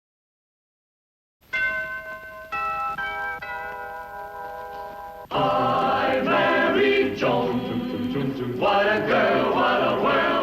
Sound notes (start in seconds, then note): 1.5 bells ringing; 5.2 choral music